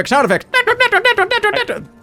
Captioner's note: clown horn